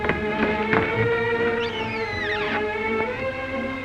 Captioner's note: kissing sounds